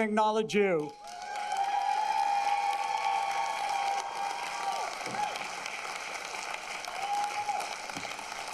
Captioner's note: applause